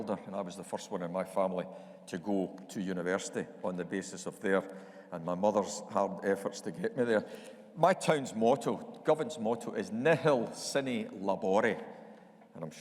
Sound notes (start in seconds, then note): none